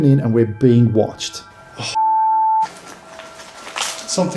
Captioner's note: beeping